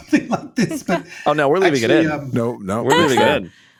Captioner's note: laughing